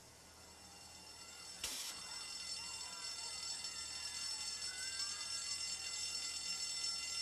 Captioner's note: alarm bell ringing